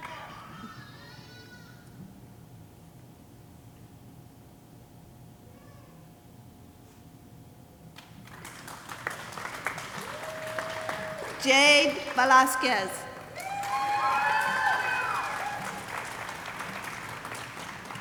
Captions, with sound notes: (audience applauding) Jade Velazquez. (audience cheering and applauding)